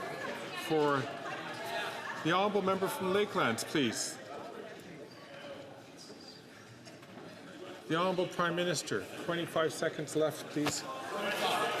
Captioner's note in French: voix de l'interprète